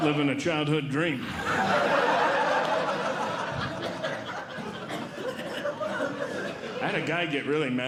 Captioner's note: audience Laughing